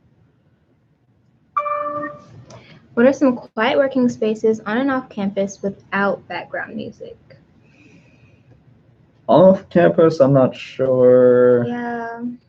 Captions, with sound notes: (computer dings) - What are some quite working spaces on an off-campus without background music? - Off campus, I'm not sure. - Yeah.